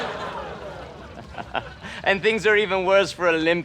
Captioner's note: evil laughter